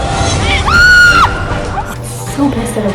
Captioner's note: screaming